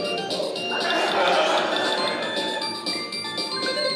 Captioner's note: laughter